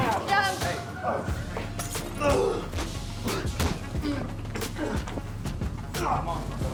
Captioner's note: distorted music; prisoners scuffle